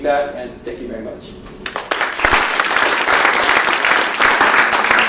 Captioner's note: applause